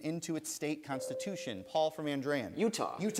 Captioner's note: bell rings